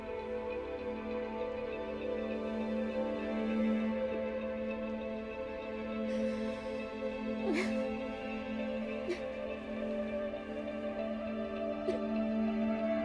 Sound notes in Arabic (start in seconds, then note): 7.2 راشيل تبكي